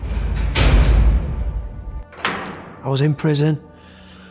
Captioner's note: prison doors slam shut